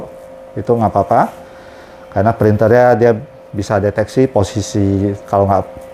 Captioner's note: printer machine noise